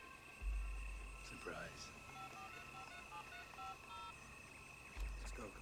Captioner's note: phone Dialing